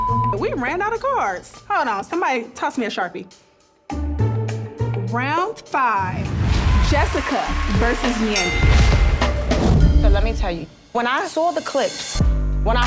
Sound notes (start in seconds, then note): 0.0 beep; 3.8 curious music; 8.3 bell dings